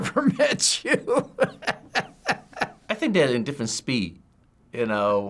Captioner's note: laughs